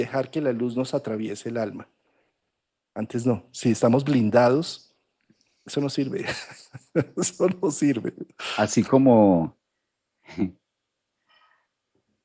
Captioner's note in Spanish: risas